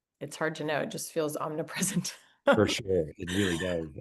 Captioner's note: laughs